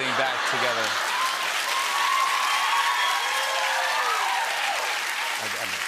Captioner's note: laughter, cheers, applause